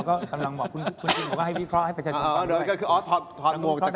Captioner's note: laughter